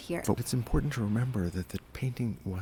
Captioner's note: voiceover